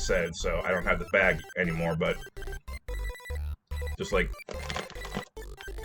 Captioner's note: crinkle ASMR